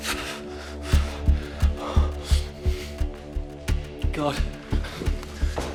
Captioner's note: heavy breathing; light dramatic music